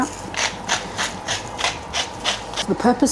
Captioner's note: pepper mill grinding